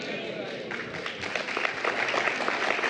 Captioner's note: applause